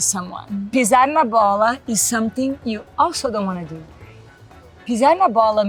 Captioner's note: speaks Portuguese